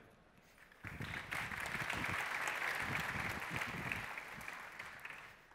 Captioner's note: applause